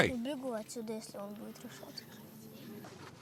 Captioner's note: Russian spoken audio